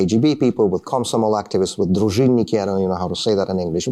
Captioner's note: speaking russian